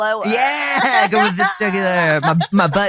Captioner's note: laughs; all laughing